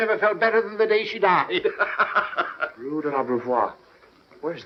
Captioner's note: laughing